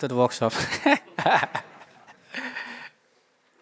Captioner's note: laughter